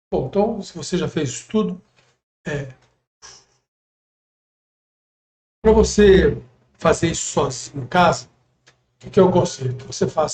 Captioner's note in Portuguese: simulando respiração